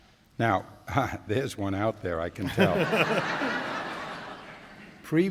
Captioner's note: laughter